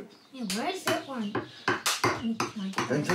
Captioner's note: knife chops